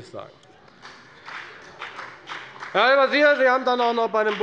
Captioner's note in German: Beifall bei der FDP